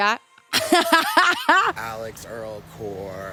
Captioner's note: laughs